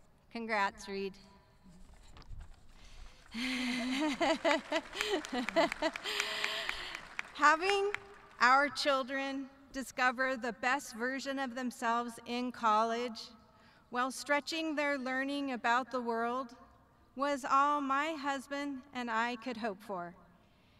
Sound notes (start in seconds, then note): 3.2 audience clapping